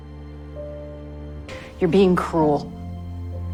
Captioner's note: voiceover